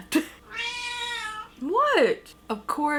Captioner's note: cat meowing